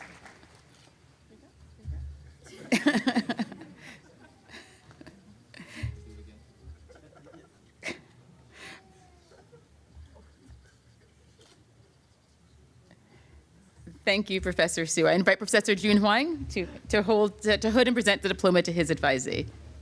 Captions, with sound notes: [LAUGHTER] Thank you, Professor Hsu. I invite Professor Jun Huang to hood and present the diploma to his advisee.